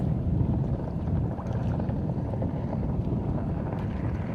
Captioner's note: boat rumbles